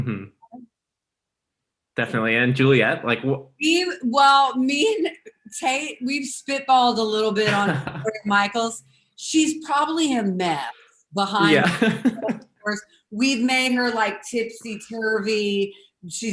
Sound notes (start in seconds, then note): 10.6 voice breaks; 11.4 laughs